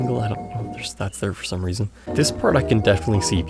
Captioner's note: confused